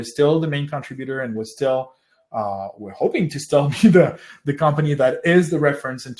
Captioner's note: laughs